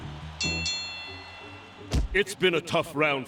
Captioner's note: ding ding